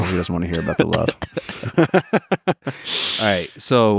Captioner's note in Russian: Пол и Лекс смеются